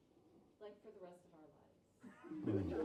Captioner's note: laughs